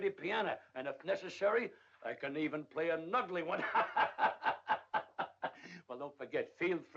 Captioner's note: laughs